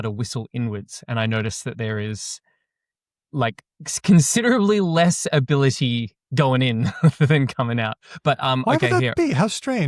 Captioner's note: chuckles